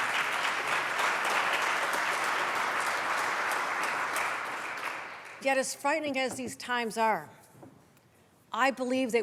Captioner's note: applause